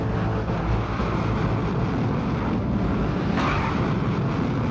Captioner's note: suspenseful music; engines whooshing